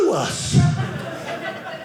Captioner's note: audience laughing